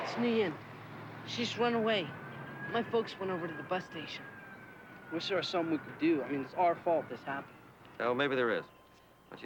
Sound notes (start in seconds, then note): 4.2 birds chirping